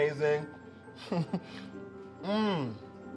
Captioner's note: chuckling